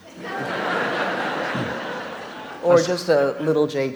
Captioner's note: audience laughs